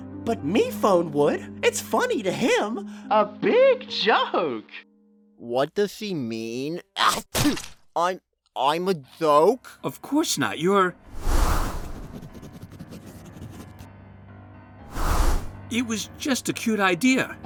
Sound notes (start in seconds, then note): 7.1 sneezes